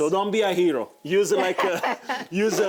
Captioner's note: laughs